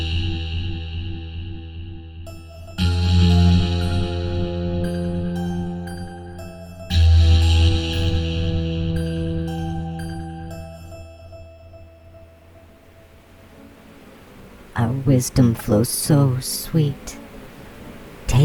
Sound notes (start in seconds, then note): 0.0 heavy guitar: BAAAAAOOOW! ...BAAAAAOOOW!; 5.5 light piano: dee-doo-dee... dee-doo-dee-doo; 7.5 muted horn in f; 9.6 music fades out, buzzing bees, and undulating static fade in; 14.7 The Buzzing voices